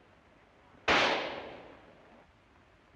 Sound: gunshot

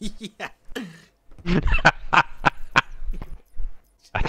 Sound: laughing

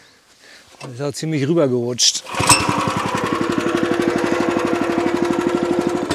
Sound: engine on

